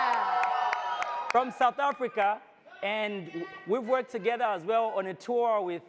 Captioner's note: audience cheers; shouting from audience